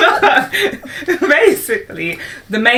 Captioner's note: laughter